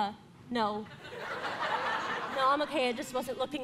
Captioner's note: audience laughing